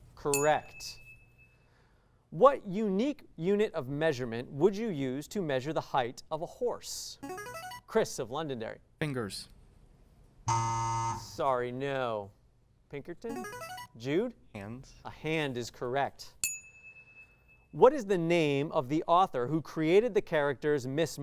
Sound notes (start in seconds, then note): 7.2 signaling device tone; 10.5 buzz; 13.3 signaling device tone; 16.4 ding